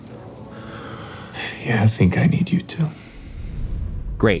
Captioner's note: sighing